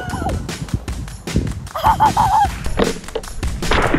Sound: laughing

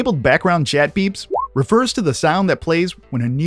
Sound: beep

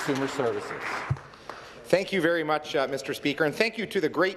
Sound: some Applause

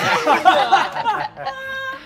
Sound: all laugh

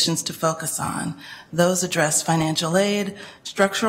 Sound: none

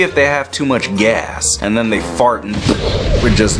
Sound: makes exploding sound

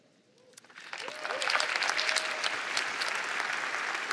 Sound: applause

